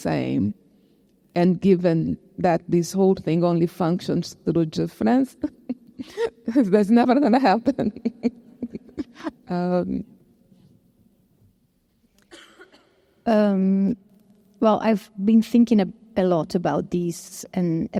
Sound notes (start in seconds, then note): 5.2 chuckling